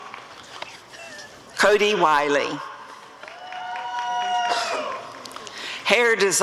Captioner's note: applause and cheering